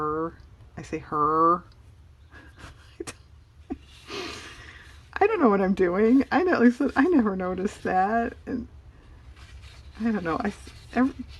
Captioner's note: laughs